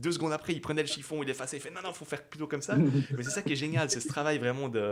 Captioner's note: laughs